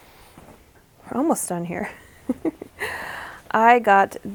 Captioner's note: laughs